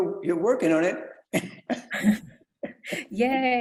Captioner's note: laughs; chuckles